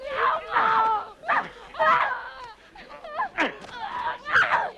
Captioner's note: captive grunting